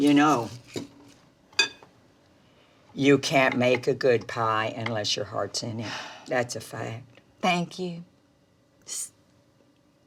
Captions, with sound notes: - You know, you can't make a good pie unless your heart's not in it. (Dory exhales) That's a fact. - Thank you.